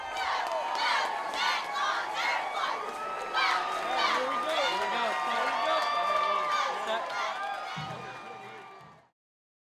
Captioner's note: cheering